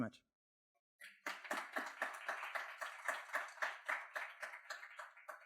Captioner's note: audience clapping